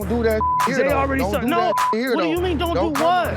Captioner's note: beep